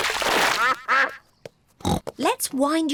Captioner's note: ducks quack; snorts